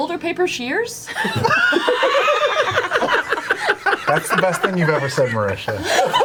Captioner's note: all laugh